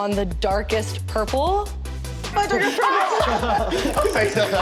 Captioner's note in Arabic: يصيح المتسابقون